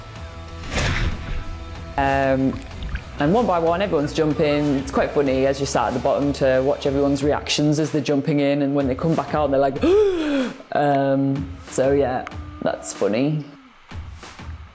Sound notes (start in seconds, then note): 9.8 gasping